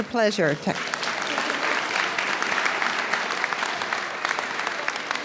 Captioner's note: audience applauds